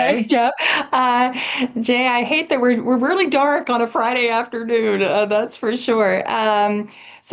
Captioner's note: laughs